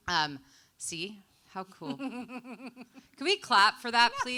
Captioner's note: chuckling